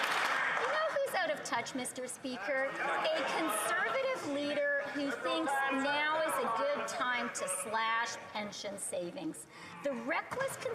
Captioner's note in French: voix de l'interprète